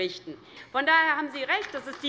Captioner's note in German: Beifall DIE LINKE